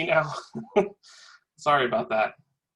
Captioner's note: laugh